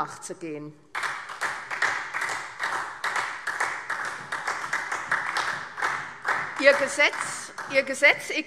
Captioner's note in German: Beifall SPD